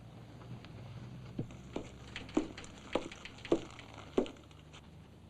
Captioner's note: indignant footsteps